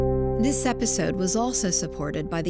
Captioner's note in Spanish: Voz en off